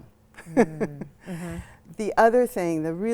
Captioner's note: laughs